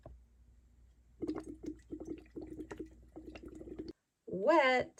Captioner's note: water bubbles